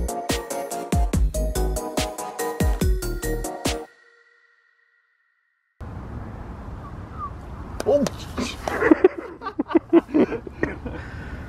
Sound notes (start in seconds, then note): 6.8 whistles; 8.3 laughs